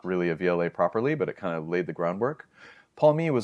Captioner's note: inhales